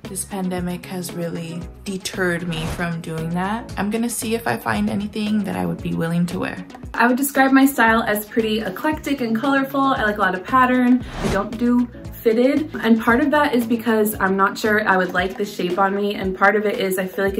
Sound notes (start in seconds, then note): none